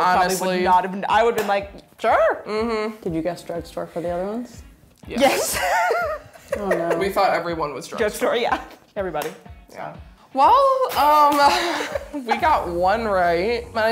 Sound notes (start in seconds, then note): 5.2 laughing